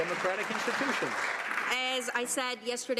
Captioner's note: some Applause